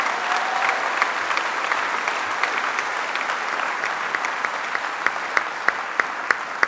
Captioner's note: applause